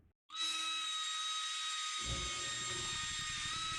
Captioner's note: drill whirring